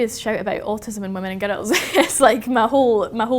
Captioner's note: laughs